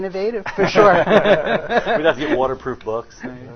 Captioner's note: all laughing